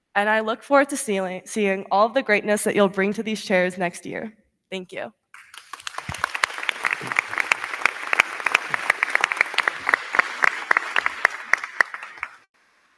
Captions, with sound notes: and I look forward to seeing all of the greatness that you'll bring to these chairs next year. Thank you. (crowd cheering) (crowd clapping)